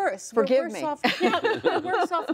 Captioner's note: laughter